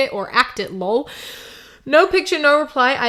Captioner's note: breath